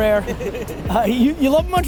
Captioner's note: laughs